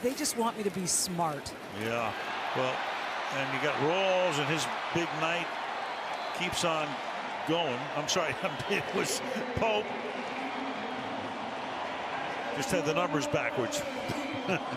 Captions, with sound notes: And he said, they just want me to be smart. Yeah, well-- and we got Rawls. And his big night keeps on going. I'm sorry, it was Pope. [pa announcement] Just had the numbers backwards.